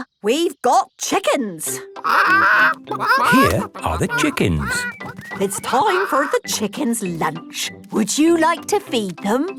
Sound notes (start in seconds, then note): 2.0 clucking